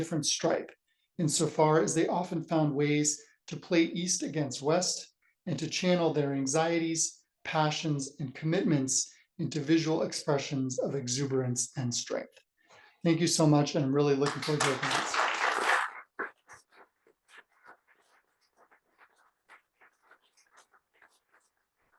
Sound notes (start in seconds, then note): 14.2 applause